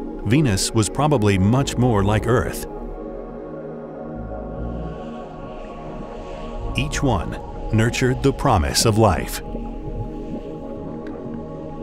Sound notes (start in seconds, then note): 4.7 gas hissing; 9.0 water bubbling